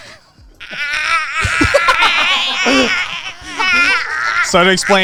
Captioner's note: groaning